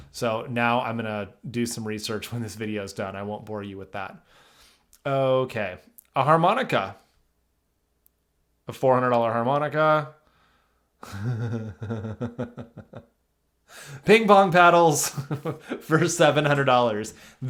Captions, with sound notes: So now I'm gonna do some research when this video's done. I won't bore you with that. Okay, a harmonica. A $400 harmonica. (chuckles) Ping pong paddles for $700.